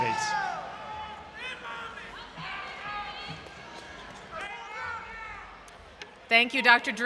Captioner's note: cheers From Audience